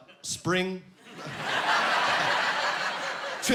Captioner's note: laughing